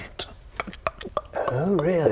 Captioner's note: click click